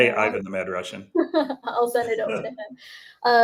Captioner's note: laughs